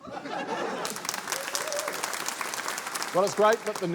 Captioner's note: laughter, cheering, applause